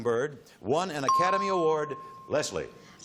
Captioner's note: ping